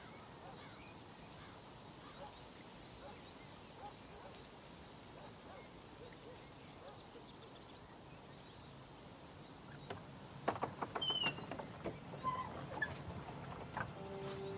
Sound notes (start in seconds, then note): 0.0 birds chirping; 10.5 door squeaks open